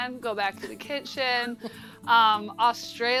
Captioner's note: chuckles